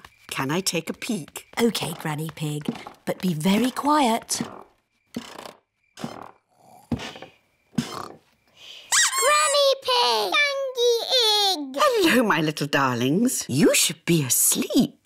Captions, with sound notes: -Can I take a peek? -Okay, Granny Pig. -But be very quiet. -(STAIRS CREAK SOFTLY) (BOTH SNORE) -(DUCK SQUEAKS) -Granny Pig! Gangy ig! Hello, my little darlings. You should be asleep.